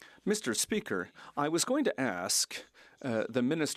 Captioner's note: speaking French